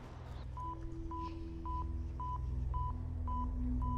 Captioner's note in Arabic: صفير